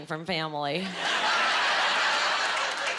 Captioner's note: laughing